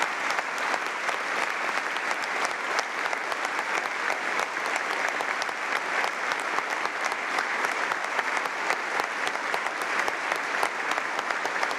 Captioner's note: applause